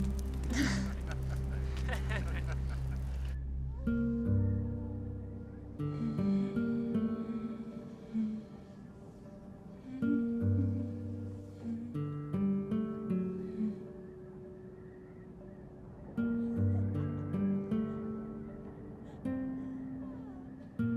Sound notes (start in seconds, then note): 0.5 laughter; 3.5 wolf howls; 9.8 humming a tune